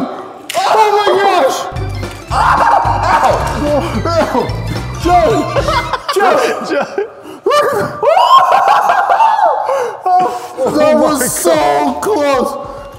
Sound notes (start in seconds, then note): 2.1 more ows; 8.0 laughing